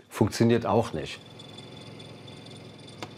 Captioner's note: rattling